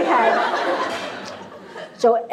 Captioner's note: laughter